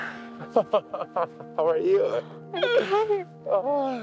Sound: laughs

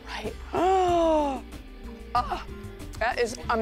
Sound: gasps

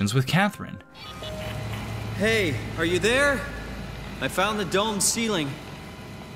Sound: in-game audio

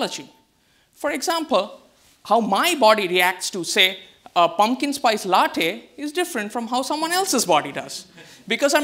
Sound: audience laughs

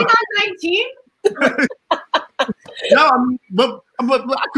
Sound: all laughing

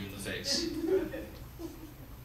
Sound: audience laughs

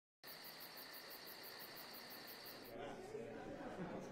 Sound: crickets chirp; guests chatter

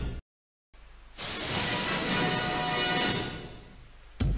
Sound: lightning crashing down as high-pitched rousing fanfare plays; dramatic sounds

